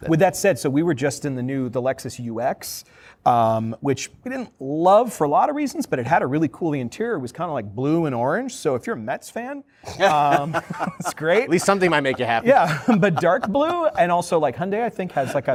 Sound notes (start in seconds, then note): 9.9 laughter